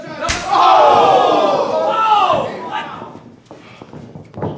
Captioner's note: audience cheering